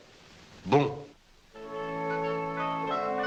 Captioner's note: speaking french